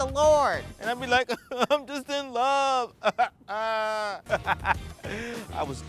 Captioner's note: crying; laughing